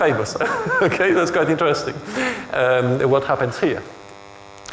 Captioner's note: chuckles